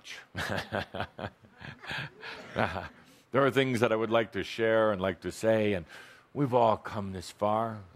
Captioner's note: chuckles